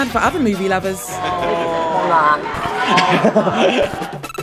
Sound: laughter

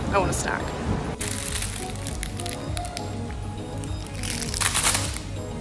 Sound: plastic rustling

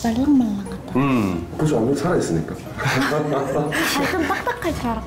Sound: haha

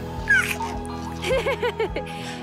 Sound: laughing

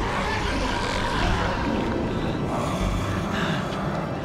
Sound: grunting

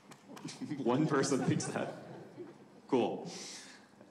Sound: audience member applauding; audience laughing

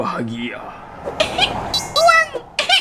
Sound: coughing

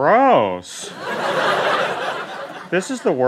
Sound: laughter

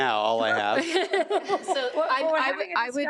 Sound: trustees laugh

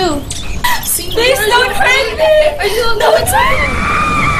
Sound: crying; screaming

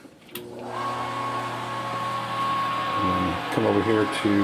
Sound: whirring

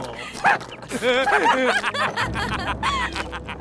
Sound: laughter

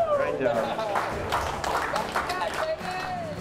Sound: cheers

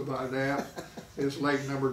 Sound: laughing

